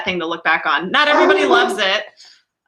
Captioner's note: dog barking